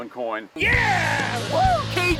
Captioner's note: yells